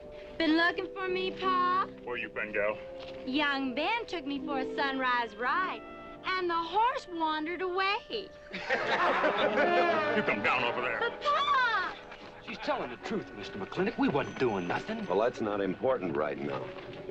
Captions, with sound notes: - Been looking for me, Pa? - Where you been, gal? Young Ben took me for a sunrise ride, and the horse wandered away. (Everyone laughing) - You come down off of there! - But, Pa! She's telling the truth, Mr. McLintock. We wasn't doing nothing. Well, that's not important right now.